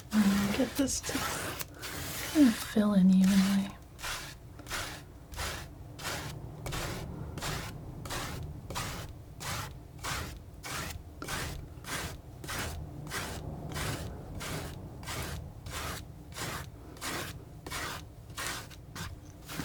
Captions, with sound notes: and get this to fill in evenly (scratching)